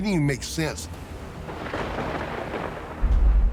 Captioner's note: thunder cracks